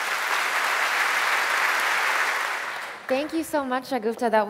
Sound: applause

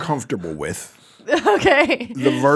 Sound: laughs

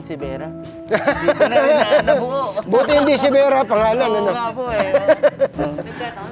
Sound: laugh

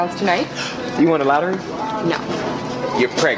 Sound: gasp

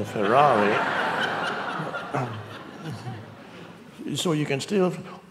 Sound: audience laughing

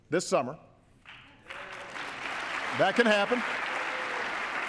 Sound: cheers, applause

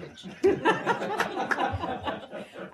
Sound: laughter

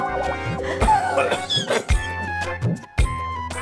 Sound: coughing

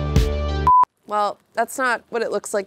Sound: beep

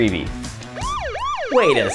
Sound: siren wailing

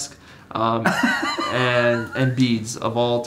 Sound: laughing

